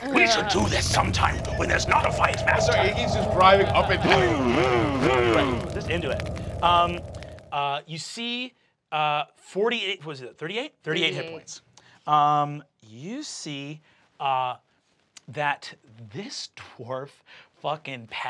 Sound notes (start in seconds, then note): 4.8 mimics motorcycle revving